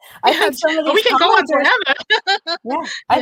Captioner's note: laughs